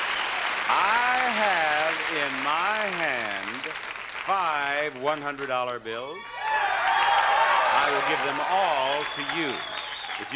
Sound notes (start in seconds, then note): 6.0 audience cheering